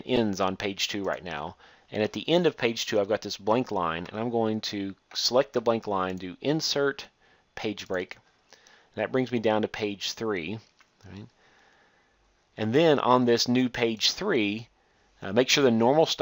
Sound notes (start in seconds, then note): 8.6 click